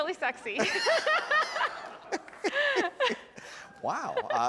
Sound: audience laughs

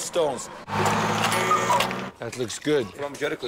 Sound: engine roaring

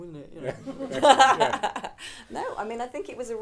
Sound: audience laughing

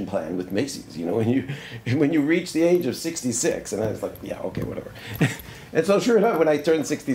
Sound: laughs

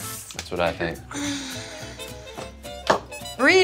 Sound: sigh

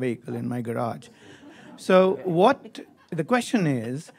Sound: audience chuckles

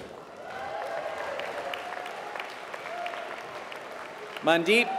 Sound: applause

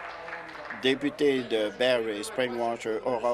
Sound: applause

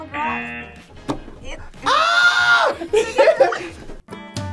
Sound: buzzer; screams; soft music; both laugh

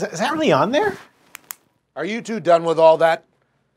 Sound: pen clicking

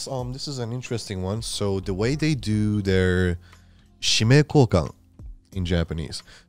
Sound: speaking foreign language

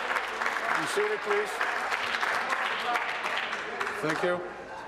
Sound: voice trailing; applause

